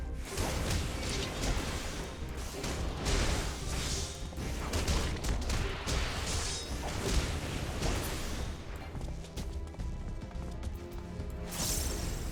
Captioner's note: gunshots